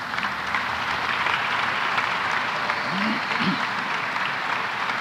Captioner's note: applause